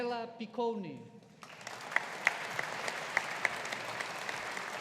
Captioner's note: audience applauding